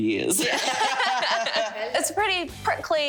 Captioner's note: all laugh